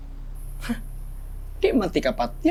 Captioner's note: Apo scoffs